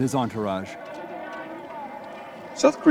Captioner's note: people chattering